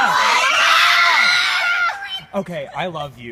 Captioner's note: audience cheers